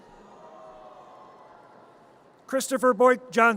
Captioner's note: audience cheers